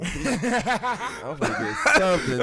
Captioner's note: laughing